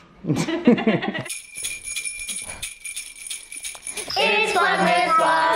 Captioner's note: laughter; bells jingling